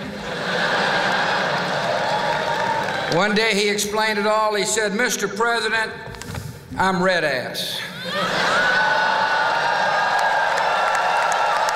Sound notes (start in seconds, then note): 0.0 laughter; 8.0 whoop!; 9.0 applause